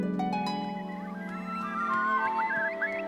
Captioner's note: birds chirping